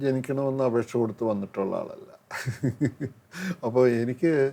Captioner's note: laughs